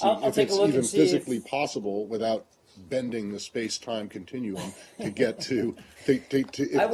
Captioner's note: laughter